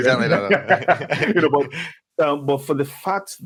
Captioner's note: speakers laughing